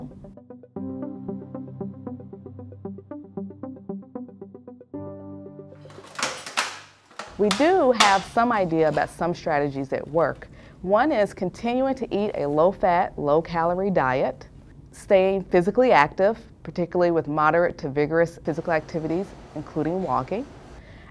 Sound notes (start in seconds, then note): 0.0 introspective spacey music; 5.8 clattering